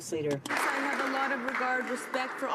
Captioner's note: some Applause